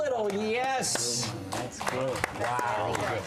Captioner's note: applause